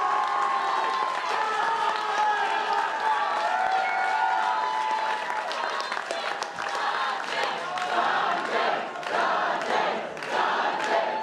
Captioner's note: applause